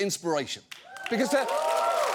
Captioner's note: audience cheering, applauding